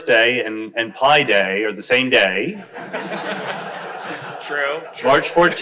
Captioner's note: crowd laughs